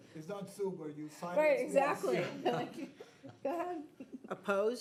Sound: board member chatter

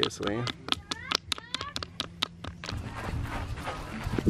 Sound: knocking rocks

